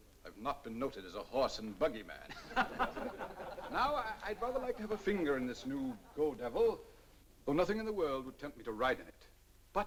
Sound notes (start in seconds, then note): 2.2 laughter